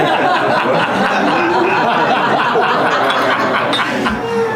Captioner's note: laughter